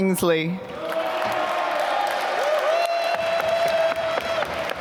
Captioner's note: applause